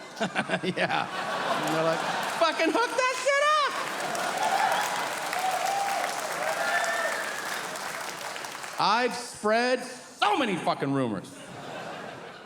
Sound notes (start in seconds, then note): 0.0 laughing; 4.0 audience cheering